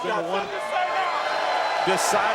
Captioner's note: audience cheering